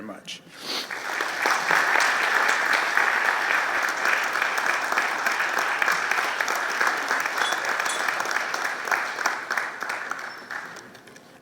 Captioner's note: applause